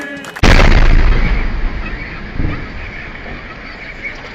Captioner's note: sound of explosions